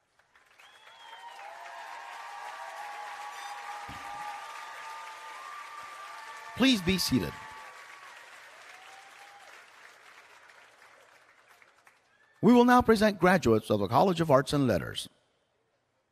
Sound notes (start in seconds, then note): 0.4 cheering